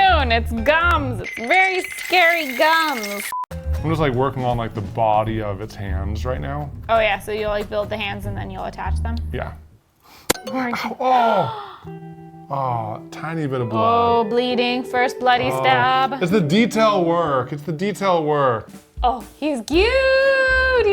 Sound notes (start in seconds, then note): 3.4 screen beeping; 10.6 gasping